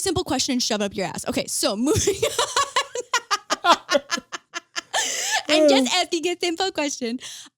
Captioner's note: laughs